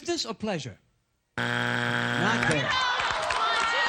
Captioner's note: buzzer